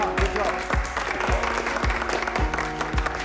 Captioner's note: applause